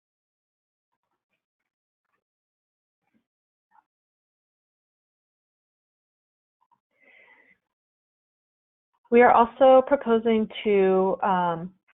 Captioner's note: silence